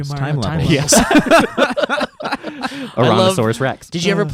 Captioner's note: laughing